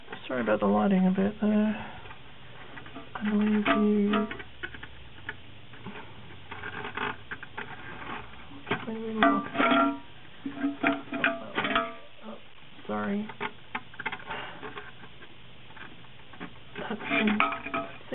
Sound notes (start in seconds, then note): 4.6 installation sounds